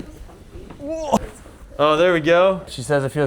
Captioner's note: grunting